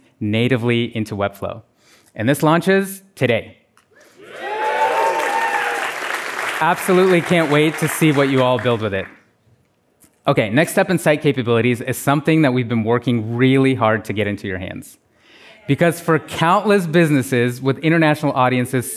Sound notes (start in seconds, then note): 4.3 applause